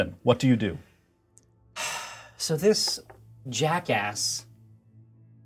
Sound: sighs

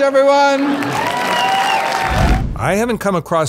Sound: audience cheers

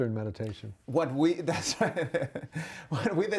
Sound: laughs

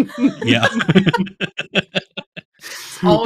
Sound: laughter

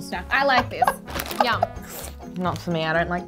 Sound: laughs

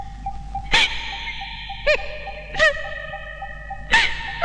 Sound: crying

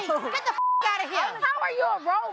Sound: beep

